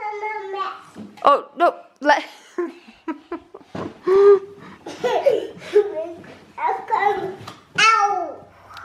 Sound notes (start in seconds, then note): 2.3 laughs; 4.8 babbles